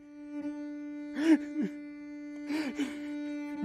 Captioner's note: somber cello music playing; Poet crying